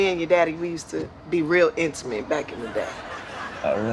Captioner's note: laughter